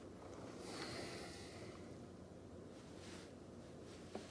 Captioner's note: exhaling